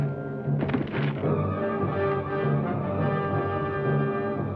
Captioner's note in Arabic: اصوات بعيدة